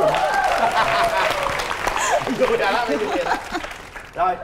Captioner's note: applause